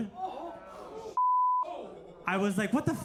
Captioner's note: beep